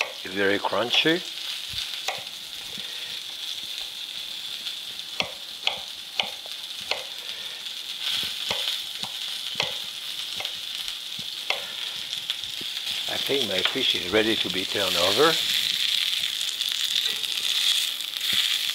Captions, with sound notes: They're very crunchy. (pan sizzling) (knife softly chopping) (pan sizzling) I think my fish is ready to be turned over. (pan sizzling)